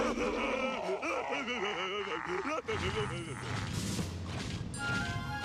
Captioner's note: booster and buzz laughing